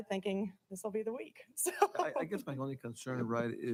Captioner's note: laughing